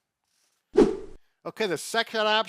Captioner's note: screen swooshes